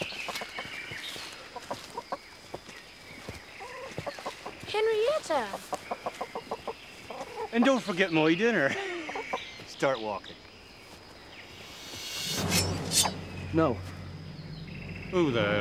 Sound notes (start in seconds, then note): 4.8 chicken clucking; 11.9 swords unsheathing